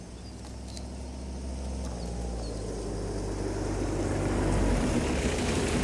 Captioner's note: birds chirping continues; car approaching